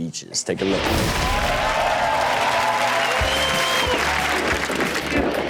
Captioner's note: audience applauding